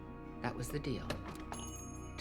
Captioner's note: bell jingles